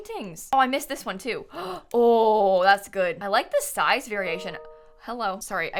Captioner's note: notification sound